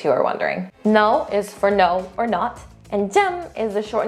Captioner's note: speaks in Korean; speaking in Korean